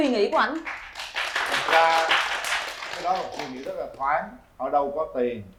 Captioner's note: applause